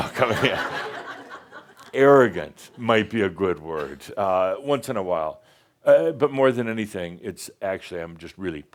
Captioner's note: laughter